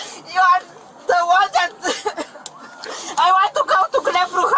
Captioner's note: crying